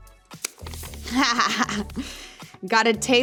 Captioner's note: laughing